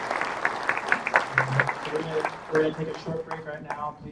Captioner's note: applause